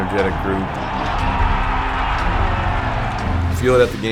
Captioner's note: crowd cheering